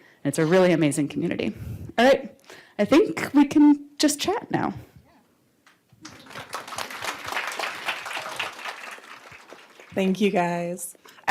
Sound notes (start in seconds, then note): 6.0 applause